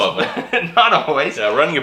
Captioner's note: laughing